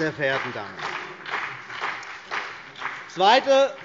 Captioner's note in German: Beifall BÜNDNIS 90/DIE GRÜNEN und vereinzelt CDU